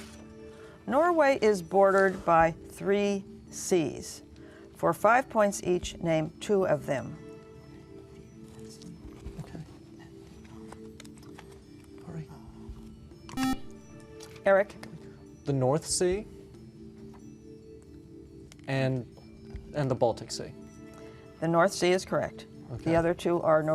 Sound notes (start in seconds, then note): 7.2 whispering; 13.3 beeping